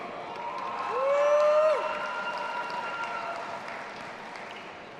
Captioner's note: audience applauding and cheering